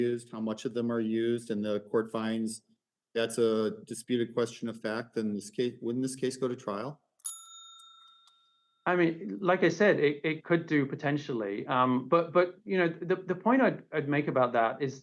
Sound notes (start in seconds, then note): 7.2 timer warning bell sounds